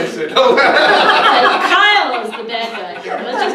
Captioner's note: crowd laughing